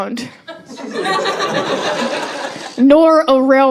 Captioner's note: laughter